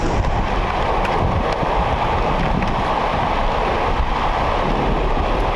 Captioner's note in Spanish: Sonido de agua sobre lecho de rocas